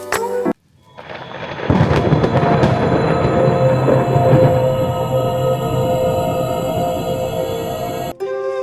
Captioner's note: thunder Sounds; scary Music; peaceful Music